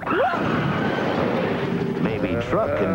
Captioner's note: crash